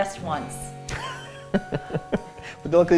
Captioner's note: laughs